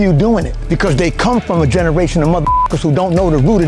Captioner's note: beep